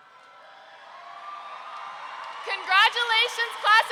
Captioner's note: roaring cheer